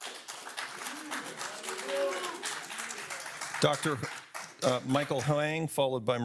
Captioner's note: audience applauding